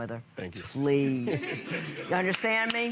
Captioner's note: laughing